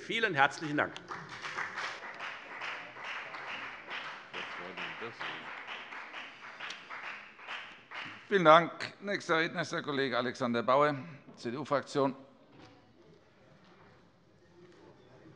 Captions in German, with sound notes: - Vielen herzlichen Dank. [Beifall bei der FDP und bei Abgeordneten der SPD] Vielen Dank. - Nächster Redner ist der Kollege Alexander Bauer, CDU-Fraktion.